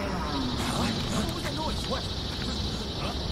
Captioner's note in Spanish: Mugidos desde la distancia